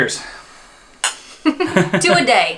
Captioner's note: clink